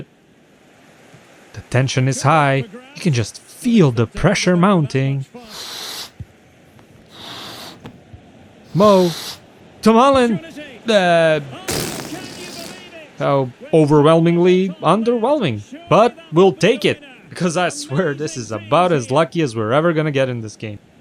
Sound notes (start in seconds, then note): 6.9 baloon blowing up; 11.6 air escaping from baloon